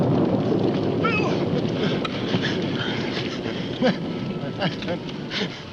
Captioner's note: groaning in pain